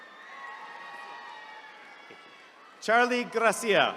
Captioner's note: attendees cheering